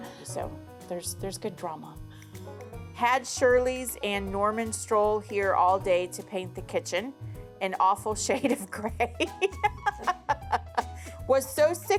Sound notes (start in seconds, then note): 9.2 laughs